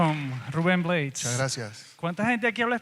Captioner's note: speaks in Spanish